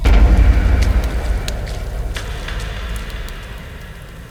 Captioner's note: fire crackling; booming